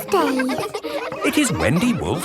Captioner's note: kids laughing